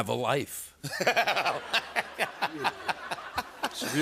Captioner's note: laughter